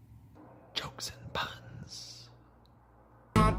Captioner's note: whispers